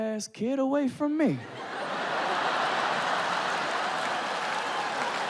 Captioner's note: audience laughing